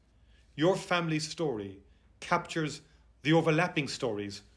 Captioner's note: none